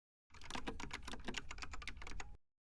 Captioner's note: typing sound